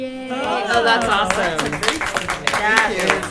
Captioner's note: applause